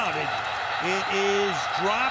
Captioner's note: whistle blows